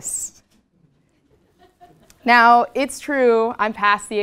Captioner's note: laugh